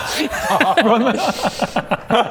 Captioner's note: unimpressed laughs